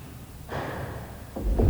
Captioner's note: knock thuds; eerie dramatic music